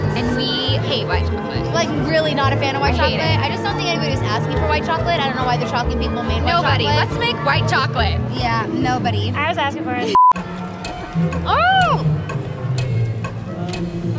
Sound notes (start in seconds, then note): 10.1 beep; 10.2 clock ticking